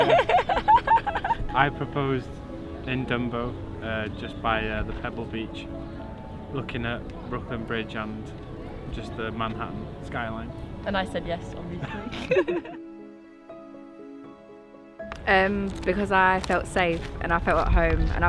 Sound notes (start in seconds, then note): 11.8 laughs; 12.9 gentle piano music